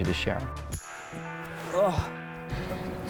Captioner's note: man groans